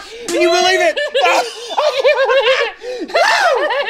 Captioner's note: Link laughing